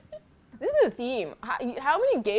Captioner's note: laughs